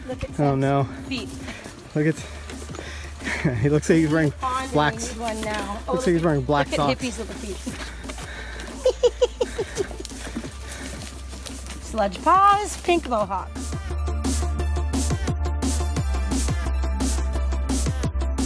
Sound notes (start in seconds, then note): 8.8 laugh; 14.9 bright music